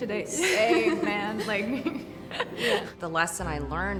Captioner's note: both chuckle